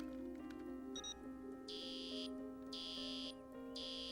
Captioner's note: beeping